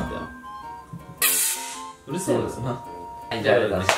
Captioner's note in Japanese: シュー！